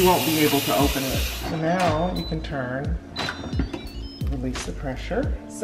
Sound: lid popping open

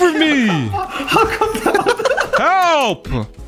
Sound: men laugh

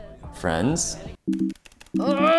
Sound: beep beep

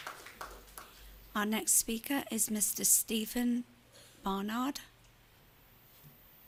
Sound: applause

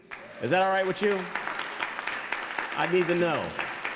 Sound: audience applauds

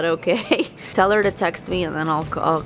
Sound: laughs

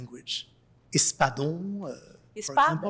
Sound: spanish

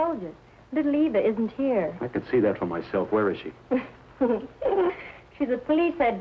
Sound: sobbing

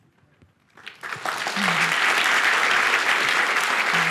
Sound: applause

